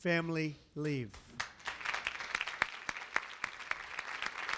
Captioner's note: applause